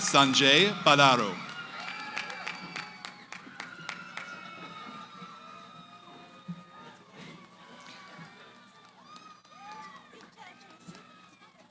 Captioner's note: cheering